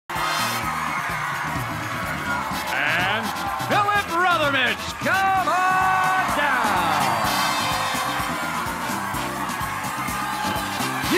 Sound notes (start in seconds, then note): 2.0 cheers and applause